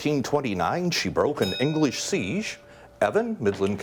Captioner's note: bell dings